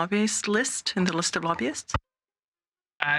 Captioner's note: speaking French